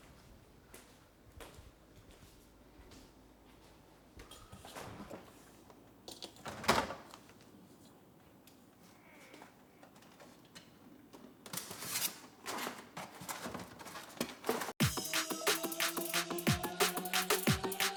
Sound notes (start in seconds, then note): 6.6 door rattles; 11.6 boxes squeak; 14.8 upbeat music